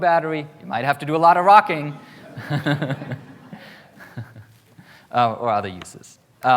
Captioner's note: laughs